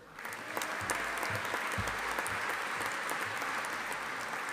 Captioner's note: audience applauding